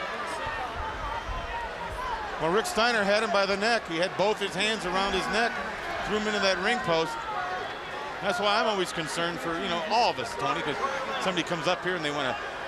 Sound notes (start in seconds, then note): 2.9 crowd chatter